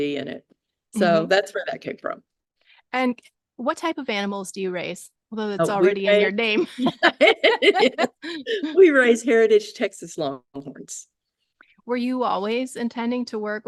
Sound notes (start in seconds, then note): 6.5 laughing